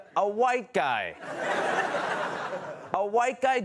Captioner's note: laughter